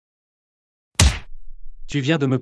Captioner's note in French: FX - Punch